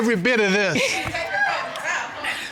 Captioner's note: overlapping chatter; laughter